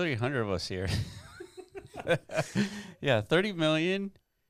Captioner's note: laughing